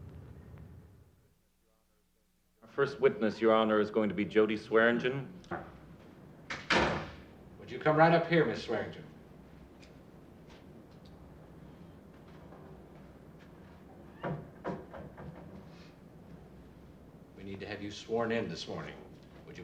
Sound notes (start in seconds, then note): 6.5 door closes